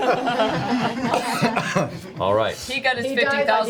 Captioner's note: all laugh